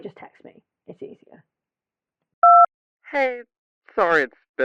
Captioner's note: beep